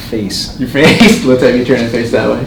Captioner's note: laughing